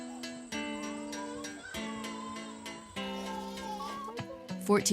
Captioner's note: baby crying